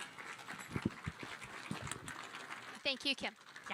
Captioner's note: audience applauding